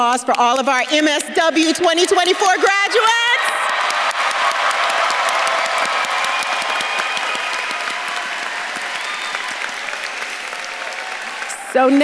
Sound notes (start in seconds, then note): 3.8 audience claps and cheers; 3.8 faculty claps